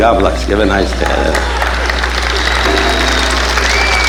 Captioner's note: audience applauding